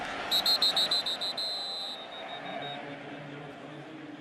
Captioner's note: whistle